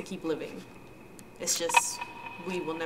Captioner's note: ominous ticking begins